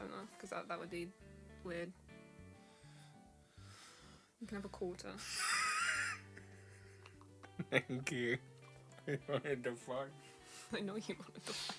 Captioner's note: laughs